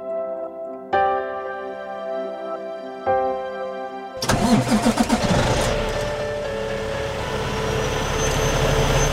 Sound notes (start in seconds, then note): 4.2 engine starting